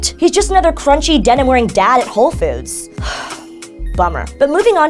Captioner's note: sigh